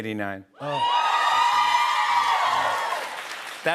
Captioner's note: crowd cheers